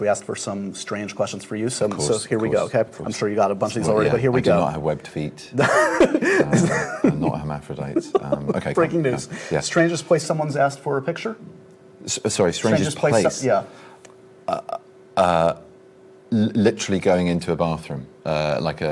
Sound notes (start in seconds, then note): 5.9 laughs